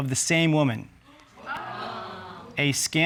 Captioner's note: audience exclaiming